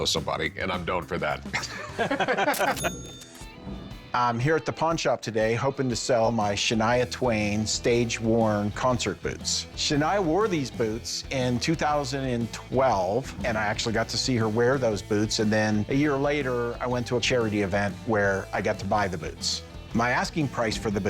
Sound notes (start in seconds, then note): 1.5 laughter; 2.5 cash register rings